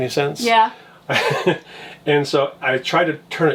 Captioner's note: laughs